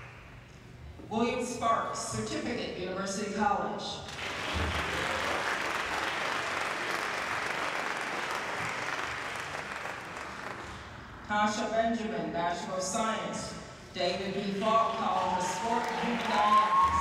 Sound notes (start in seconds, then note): 4.0 applause